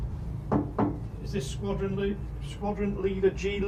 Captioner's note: loud knocking